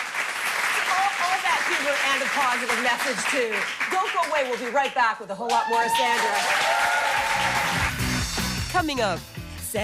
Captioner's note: applause